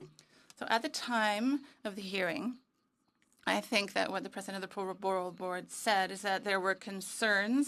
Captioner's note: speaking French